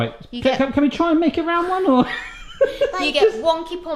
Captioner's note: laughs